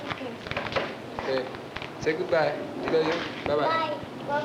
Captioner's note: Spanish speaking